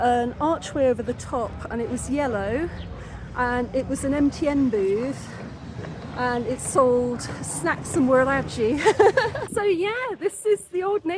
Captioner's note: laughing